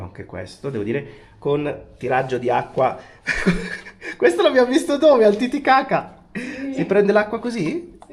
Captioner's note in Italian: risate